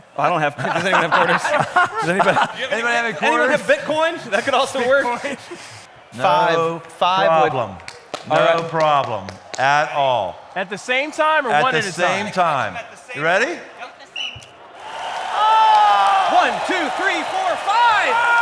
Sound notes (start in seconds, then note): 14.1 whistle; 14.5 cheers & applause; 18.2 cheering